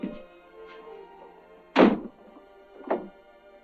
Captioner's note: door slams